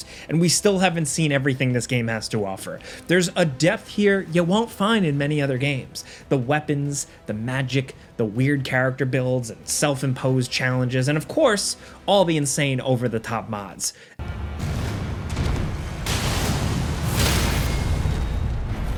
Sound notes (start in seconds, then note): 14.8 air rumbles; 16.2 weapon rumbles